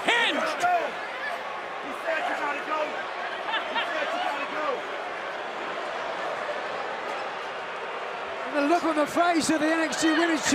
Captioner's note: crowd chatter